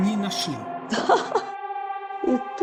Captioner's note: laughter